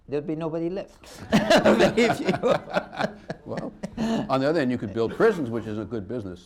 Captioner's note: laughter